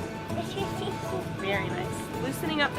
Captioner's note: chattering